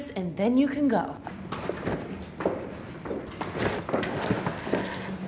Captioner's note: footsteps thunking